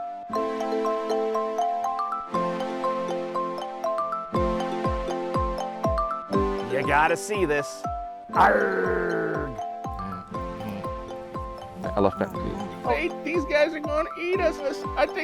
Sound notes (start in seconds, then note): 0.1 soft music; 8.3 roaring; 9.8 soft music